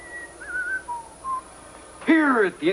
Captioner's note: whistling musically